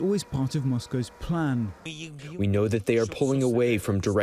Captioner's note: through translator